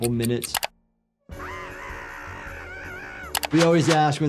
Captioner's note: Handy screams